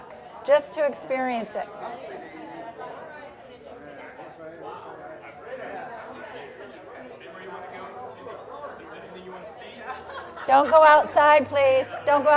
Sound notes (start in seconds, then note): 3.6 general chatter